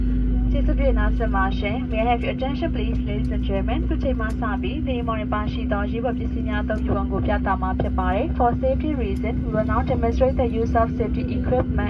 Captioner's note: cabin crew on PA, explaining safety demo